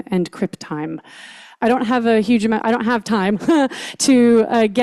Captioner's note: chuckles